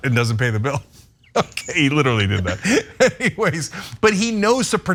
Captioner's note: laugh